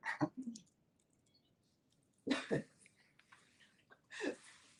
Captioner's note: chuckles